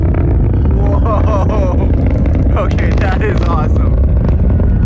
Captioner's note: rocket rummble and crackle increases